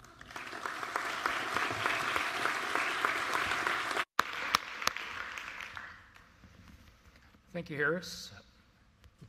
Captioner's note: applause